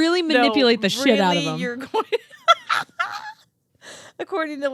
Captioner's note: laughing